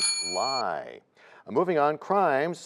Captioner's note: bell rings, time expires